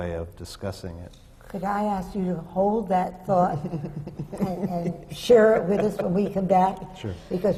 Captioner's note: laughter from the panel